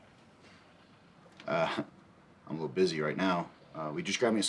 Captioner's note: chuckles